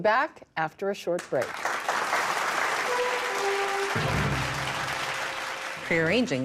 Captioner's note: applause